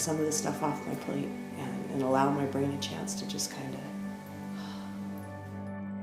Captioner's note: breathe